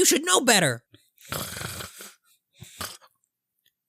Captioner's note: snore